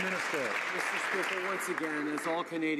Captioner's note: some Applause